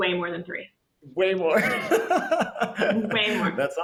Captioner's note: laughs